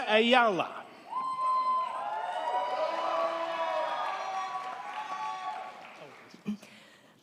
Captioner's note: crowd cheering; crowd clapping